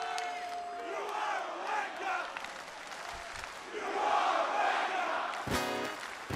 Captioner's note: fans chanting; strums guitar